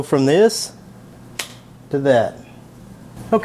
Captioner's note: fingers snapping